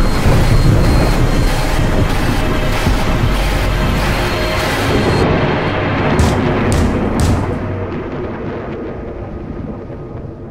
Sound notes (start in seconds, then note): 0.1 harrowing music; 6.1 banging on door